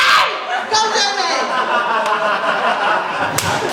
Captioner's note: laughter